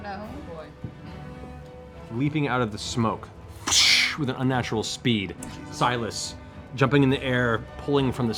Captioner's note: whoosh